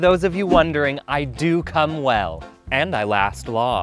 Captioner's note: beep